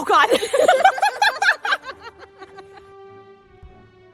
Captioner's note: laughter